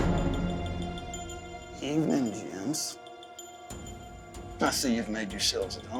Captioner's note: tense music; door closes